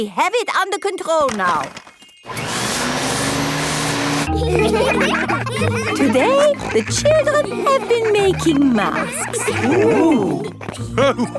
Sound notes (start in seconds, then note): 2.2 whirring; 4.9 all laughing